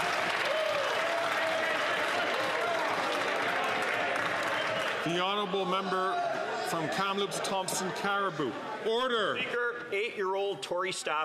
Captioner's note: some Applause